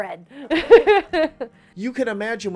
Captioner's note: laughs